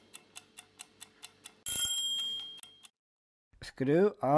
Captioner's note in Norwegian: klokka ringer